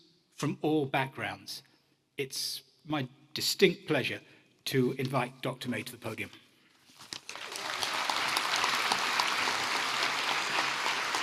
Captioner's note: applause